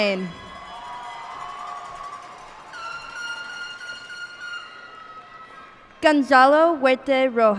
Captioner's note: cheers and applause